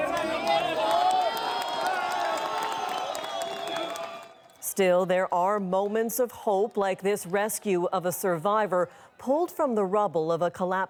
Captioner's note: applause